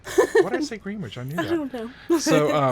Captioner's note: woman laughs